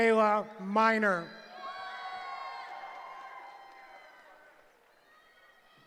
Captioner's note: cheering